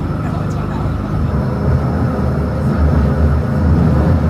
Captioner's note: train running